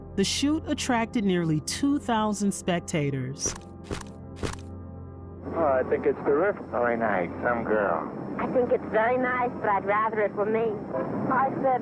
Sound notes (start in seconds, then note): 4.4 camera clicks; 4.6 soft ethereal music